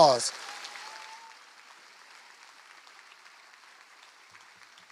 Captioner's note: applause